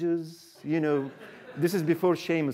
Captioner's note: laughter